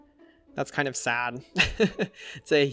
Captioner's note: laughs